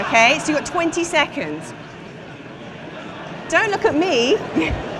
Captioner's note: indistinct chatter